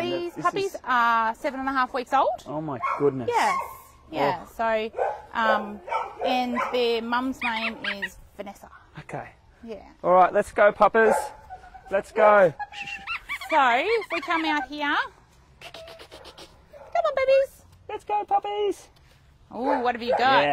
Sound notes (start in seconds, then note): 12.0 call the puppies in high-pitched voices